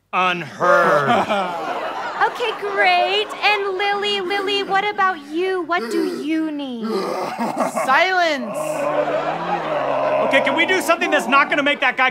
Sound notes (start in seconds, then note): 0.6 audience laughter; 6.7 low, croaking sobs; 10.1 audience laughter